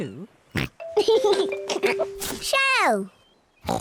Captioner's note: oinks and giggles